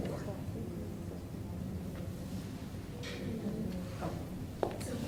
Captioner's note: crowd talking quietly